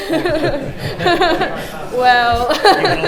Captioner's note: laughter